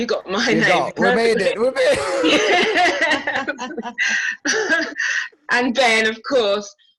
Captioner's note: laughs